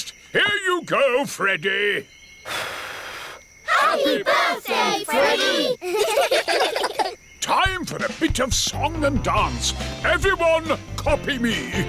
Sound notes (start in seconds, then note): 2.4 blows; 4.7 children giggle